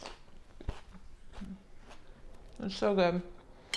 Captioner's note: food crunching